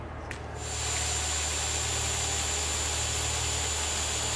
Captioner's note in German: Bohrgeräusche